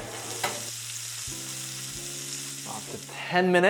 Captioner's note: sizzling sound